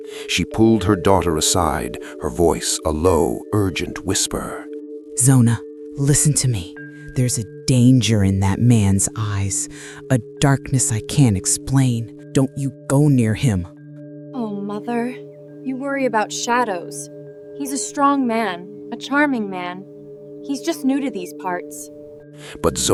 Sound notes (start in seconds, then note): 5.8 whisper; 14.6 placating